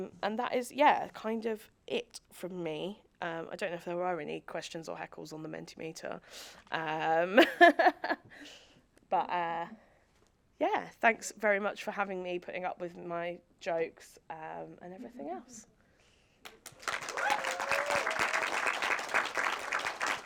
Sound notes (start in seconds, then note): 8.2 laughs; 16.4 audience applauding